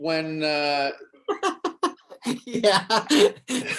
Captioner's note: David laughs